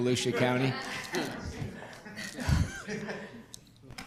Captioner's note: group laughter